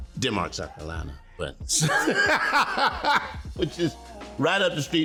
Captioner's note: laughing